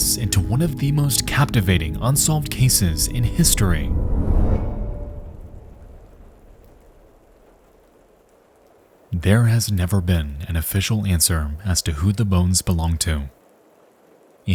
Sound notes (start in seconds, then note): 3.9 suspenseful music; 5.3 rain pattering